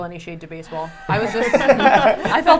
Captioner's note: laughing